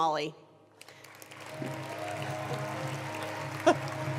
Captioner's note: applause